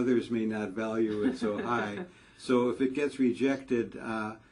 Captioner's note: laugh